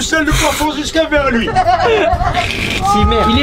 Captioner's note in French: rires